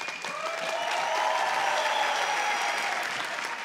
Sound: applause

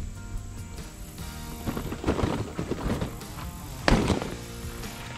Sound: tires crunching

